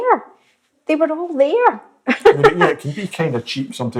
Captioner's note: laughs